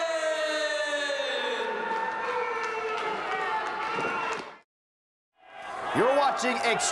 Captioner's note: crowd cheering